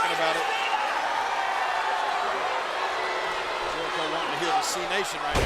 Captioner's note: crowd boos